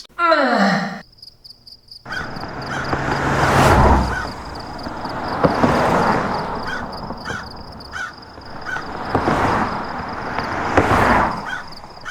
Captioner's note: environment Noises & Car Noises